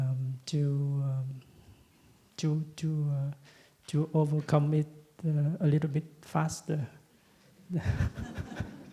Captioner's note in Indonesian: Tertawa